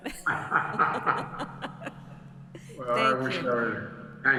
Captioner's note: laughs